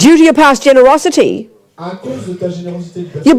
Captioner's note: speaking in French